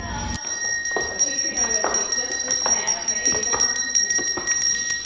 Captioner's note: bell ringing